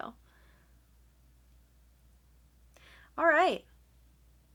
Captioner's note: awkward pause